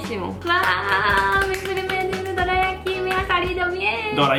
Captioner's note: clapping